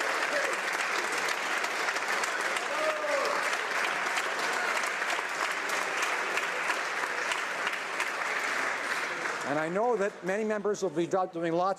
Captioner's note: applause